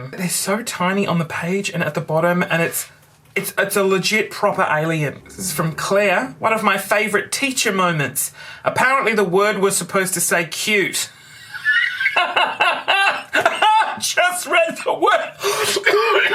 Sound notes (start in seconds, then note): 11.4 raucous laughter